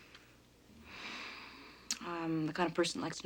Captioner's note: sighs